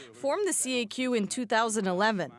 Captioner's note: speaking French